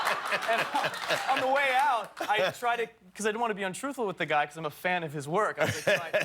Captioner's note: laughter